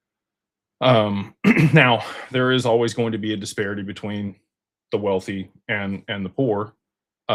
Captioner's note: clears throat